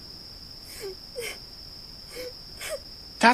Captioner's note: Tails cries and sniffles